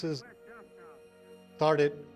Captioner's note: man On Radio